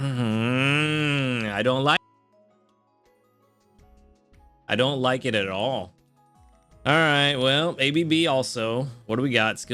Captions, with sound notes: (groans) I don't like it. I don't like it at all. All right, well, ABB also. What do we got?